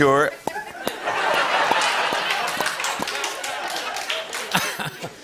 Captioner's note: laughter and applause